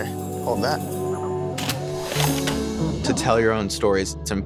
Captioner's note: camera shutter